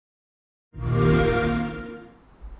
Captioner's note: xbox sound